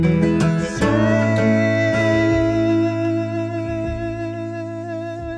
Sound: humming melody

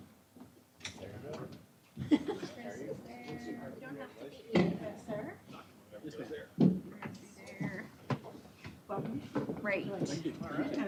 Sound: indistinct chatter

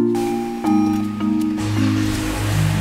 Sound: car alarm blaring; engine purring

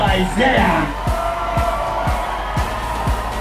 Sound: crowd applauds

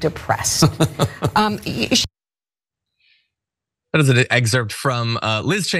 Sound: laugh

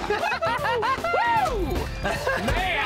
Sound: laughing

